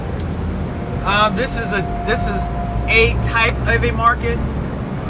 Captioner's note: voiceover